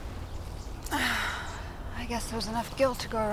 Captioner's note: sighs